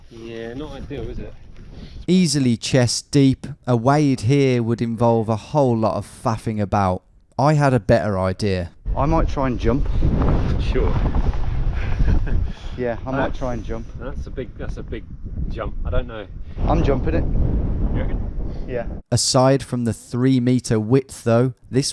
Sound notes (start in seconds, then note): 12.0 laughs